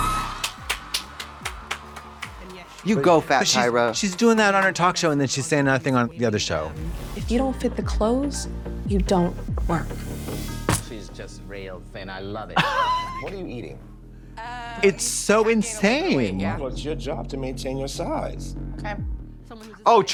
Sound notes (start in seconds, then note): 0.0 audience cheering; 0.2 Trixie claps; 12.8 Katya rasps